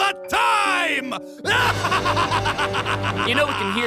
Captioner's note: evil laugh